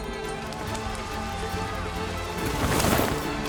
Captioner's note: crowd cheering